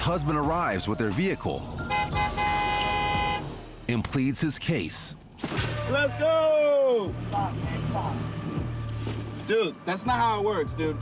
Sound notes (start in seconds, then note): 1.8 car horn honking